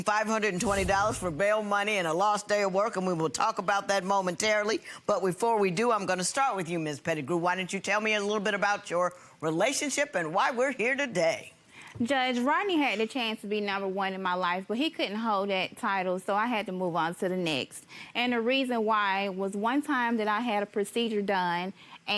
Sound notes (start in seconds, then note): none